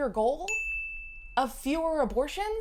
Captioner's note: bell chimes